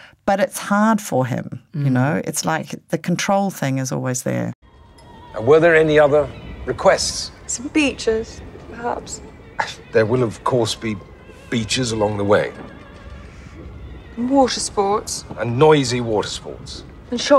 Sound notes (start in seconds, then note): 8.1 scoffs